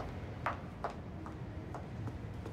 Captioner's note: footsteps